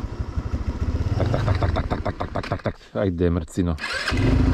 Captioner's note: poorly imitating engine sounds